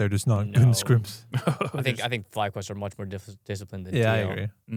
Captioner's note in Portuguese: risos